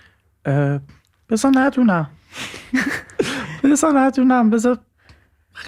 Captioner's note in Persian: خنده